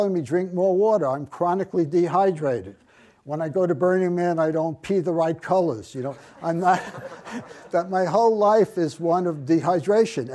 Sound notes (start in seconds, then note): 6.2 audience laughs